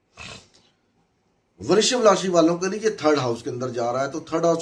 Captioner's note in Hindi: नाक से की जाने वाली आवाज़